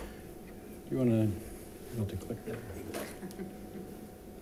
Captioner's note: speaking faintly